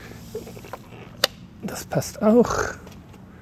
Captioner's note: click